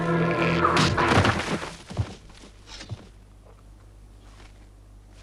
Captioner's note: boulder slams